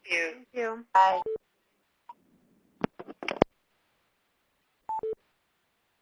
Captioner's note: beeping